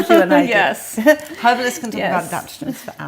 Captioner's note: laughs